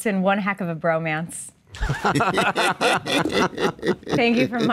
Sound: both laugh

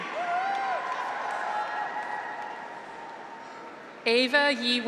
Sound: audience applauds; graduates cheer

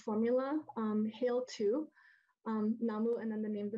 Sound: speaks in foreign language

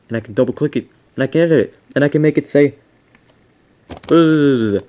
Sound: talking gibberish

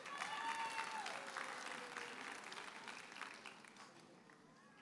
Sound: audience cheers and applauds

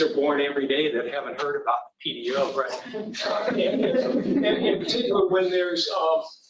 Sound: laughter

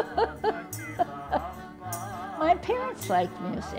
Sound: laughter

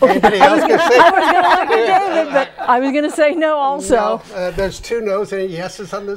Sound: laughing

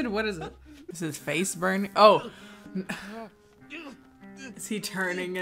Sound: man groans

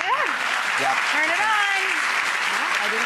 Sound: applause

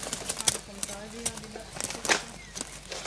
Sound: conversations in the background

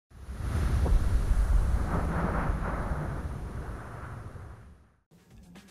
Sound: wind noise

